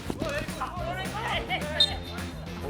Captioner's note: slap